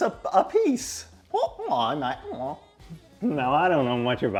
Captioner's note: making random sounds